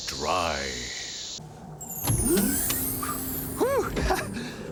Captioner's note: click, whir; laughs